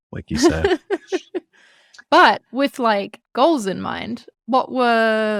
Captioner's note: laughs